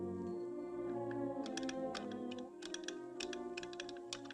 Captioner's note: tapping morse